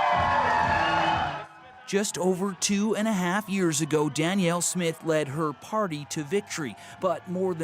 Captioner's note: cheers and Applause